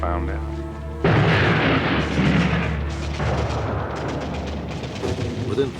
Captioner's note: sound of explosions